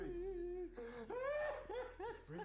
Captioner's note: sobbing